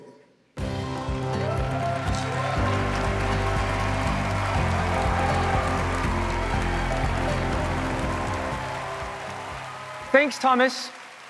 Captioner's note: applause